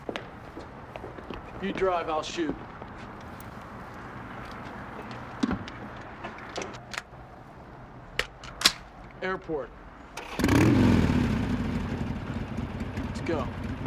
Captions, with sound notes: You drive, I'll shoot. Airport. (motorcycle revving) Let's go.